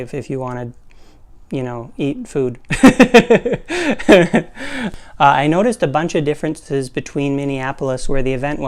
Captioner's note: laugh